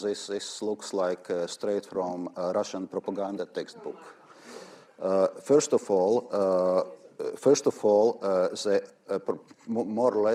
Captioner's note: laugher